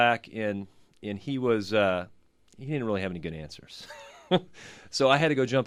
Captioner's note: laughs